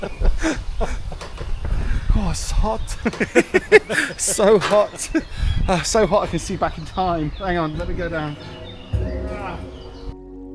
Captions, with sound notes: (laughing) Oh, it's hot. So hot. So hot, I can see back in time. Hang on, let me go down.